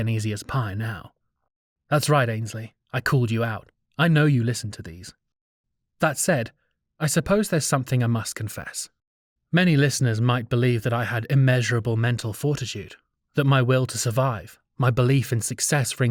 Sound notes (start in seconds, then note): none